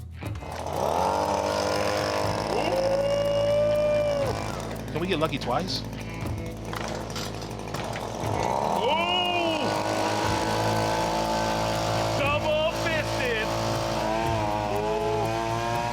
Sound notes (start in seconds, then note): 0.2 motor revving; 8.6 motor revving